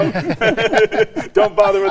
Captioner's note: group laughing